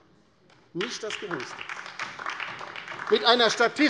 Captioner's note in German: Beifall DIE LINKE